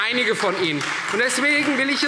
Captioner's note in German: Beifall Freie Demokraten